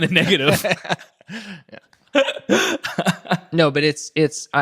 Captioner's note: both laughing